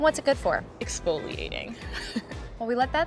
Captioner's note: chuckles